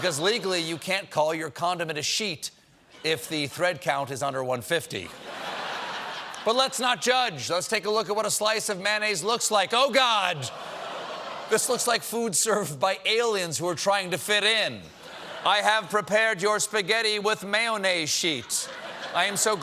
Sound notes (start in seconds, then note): 5.0 laughter; 12.5 audience reacts